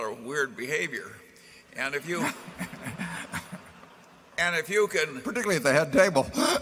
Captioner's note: laughter